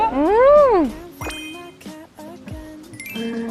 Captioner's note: laughs